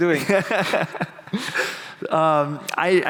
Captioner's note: laughing